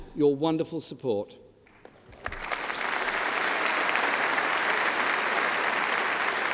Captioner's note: applause